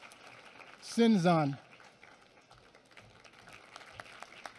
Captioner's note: applause